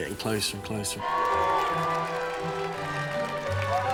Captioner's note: all cheering